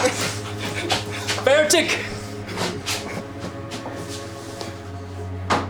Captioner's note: soldier speaking German